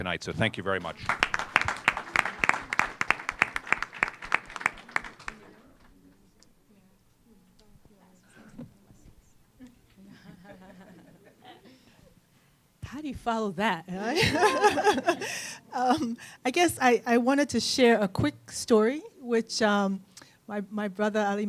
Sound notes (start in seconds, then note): 6.9 applause; 14.0 laughter